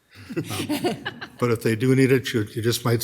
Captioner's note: council members laughing